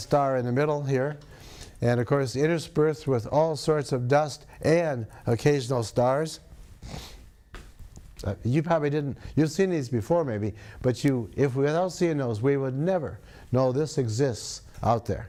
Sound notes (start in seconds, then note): 6.8 sniffs